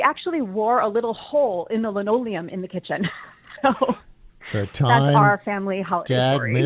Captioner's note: chuckles